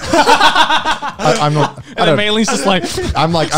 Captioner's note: laughing